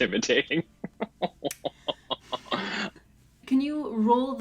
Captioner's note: laughs